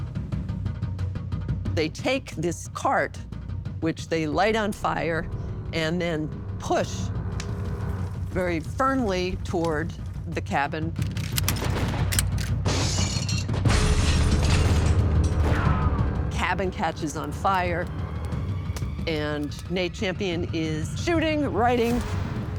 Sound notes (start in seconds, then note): 11.2 gunfire; 12.6 glass shatters